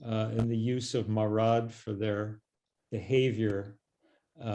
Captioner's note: hebrew